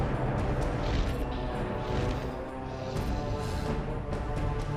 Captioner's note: sphinx wings flapping